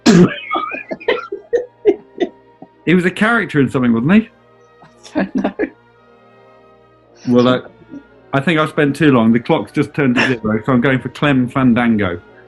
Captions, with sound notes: [SPLUTTERING AND LAUGHING] He was a character in something, wasn't he? [GIGGLING] Well... I think I've spent too long, the clock's just turned to 0:00, so I'm going for Clem Fandango.